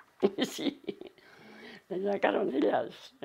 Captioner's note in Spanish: Ríe